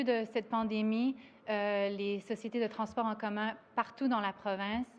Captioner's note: speaks French